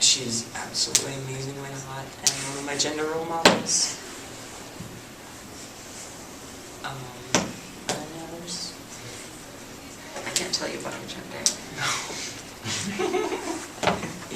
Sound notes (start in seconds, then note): 11.7 giggles